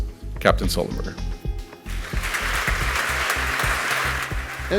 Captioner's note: audience applauds